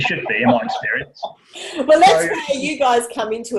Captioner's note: laughs